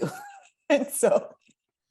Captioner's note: laughs